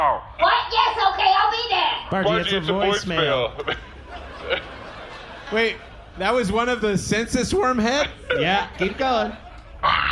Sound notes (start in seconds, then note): 3.6 audience laughing